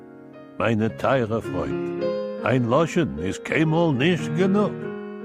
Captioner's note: speaking Yiddish